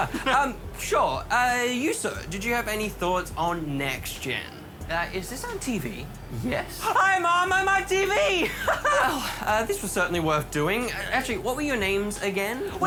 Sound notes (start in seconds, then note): 0.0 laughs; 8.4 sighs; 8.5 laughs